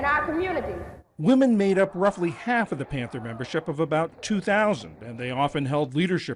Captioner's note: voice-over